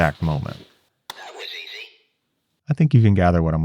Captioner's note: voiceover